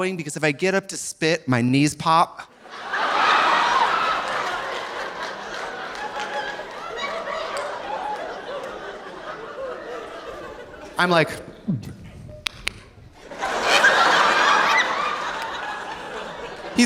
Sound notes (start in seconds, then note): 2.5 audience laughing; 2.9 audience applauding; 11.7 gulps; 11.8 Trixie imitates knees cracking; 13.2 audience laughing